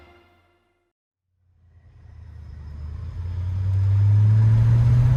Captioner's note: engine whirring